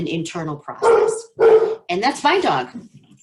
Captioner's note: dog barking